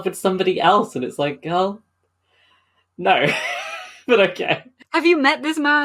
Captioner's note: laughing